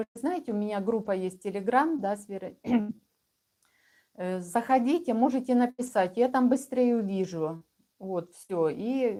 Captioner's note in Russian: откашливается